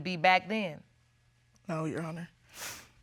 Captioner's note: sniffles